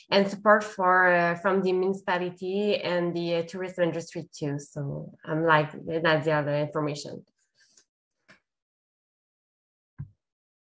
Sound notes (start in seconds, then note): 7.3 silence